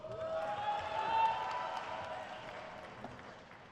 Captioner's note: crowd cheers